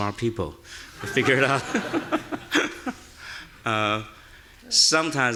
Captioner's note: laughing; audience laughing